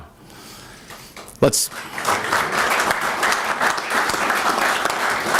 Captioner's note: applause